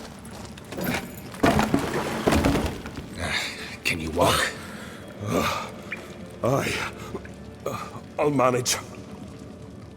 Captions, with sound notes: [clatter] [grunt] Can you walk? [heavy breath] Aye... I'll manage.